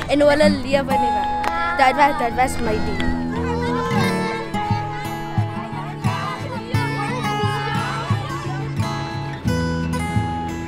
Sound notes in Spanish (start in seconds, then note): 4.6 parloteo de niños; 4.6 suena música suave